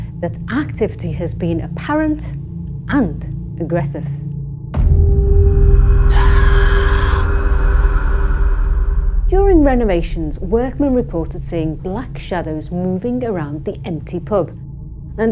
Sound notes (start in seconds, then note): 5.8 screaming